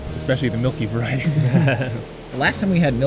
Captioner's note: all laugh